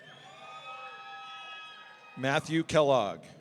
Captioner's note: audience cheering